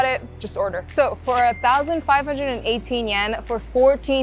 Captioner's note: chime ringing